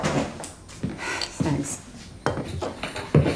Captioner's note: sighs